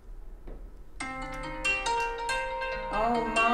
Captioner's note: phone alarm